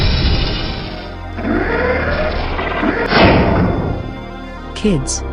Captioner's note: rocket landing; Rocket Wagon transforming